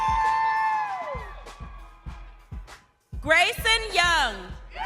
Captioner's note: crowd cheering